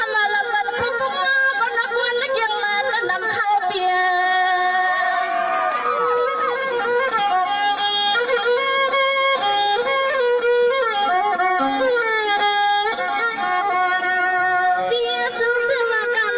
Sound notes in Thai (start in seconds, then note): 4.8 ปรบมือ